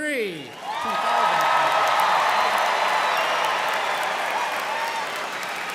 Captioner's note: students cheering and applauding